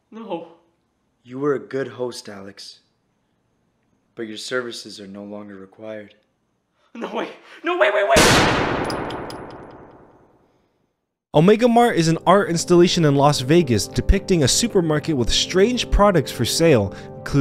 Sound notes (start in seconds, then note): 8.2 gun shot fires